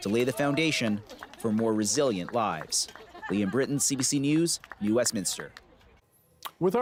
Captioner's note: cheering and applause